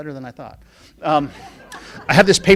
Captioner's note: laughing